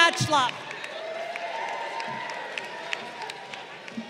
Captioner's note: crowd cheering